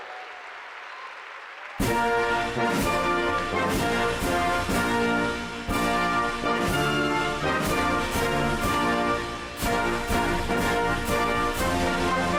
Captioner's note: applause